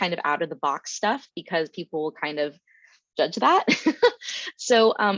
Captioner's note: chuckles